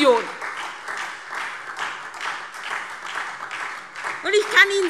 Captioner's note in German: Beifall SPD